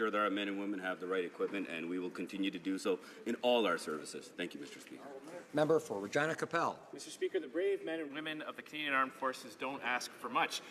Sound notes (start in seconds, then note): none